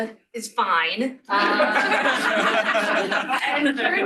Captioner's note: laughter